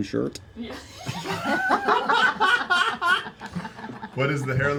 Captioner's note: laughing